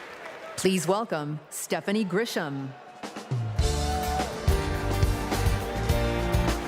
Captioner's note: applause